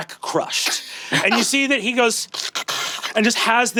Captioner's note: gurgles